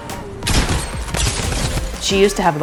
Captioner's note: gunfire